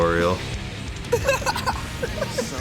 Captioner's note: laughing